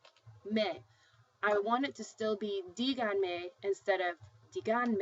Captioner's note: spanish